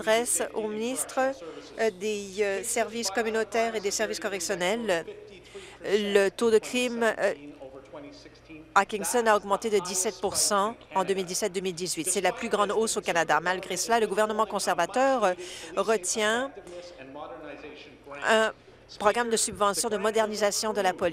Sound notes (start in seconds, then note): none